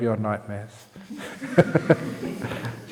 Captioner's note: laughs